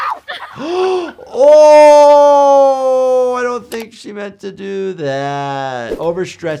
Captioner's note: gasping